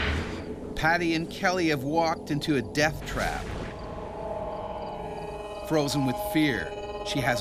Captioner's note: voiceover